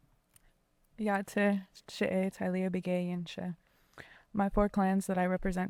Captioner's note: speaking in foreign language